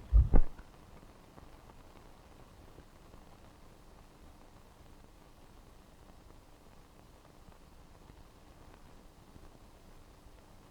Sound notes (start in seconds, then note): none